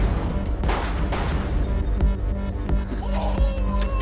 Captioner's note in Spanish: Disparos